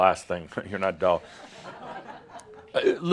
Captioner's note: some chuckles